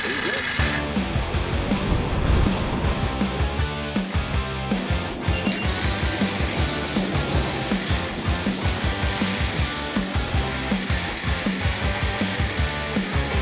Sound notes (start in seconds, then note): 1.1 lively music; 6.8 agent hissing